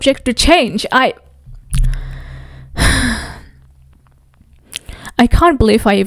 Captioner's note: sighs